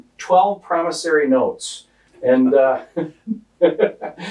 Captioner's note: laughing